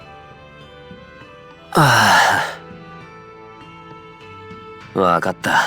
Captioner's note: sigh